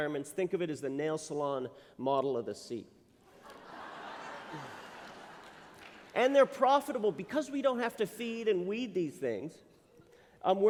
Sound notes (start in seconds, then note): 3.3 laughter